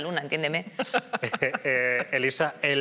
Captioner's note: laughter